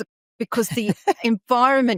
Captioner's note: laughing